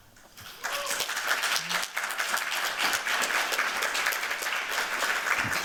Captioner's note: applause